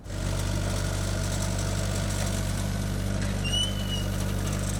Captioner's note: skid-steer whirring